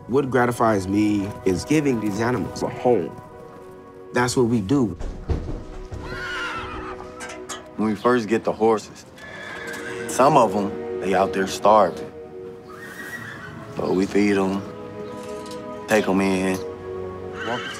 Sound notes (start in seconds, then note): 5.9 neighing